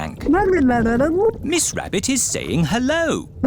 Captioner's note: gurgling